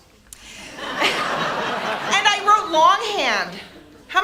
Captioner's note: audience laughs